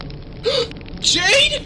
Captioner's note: gasp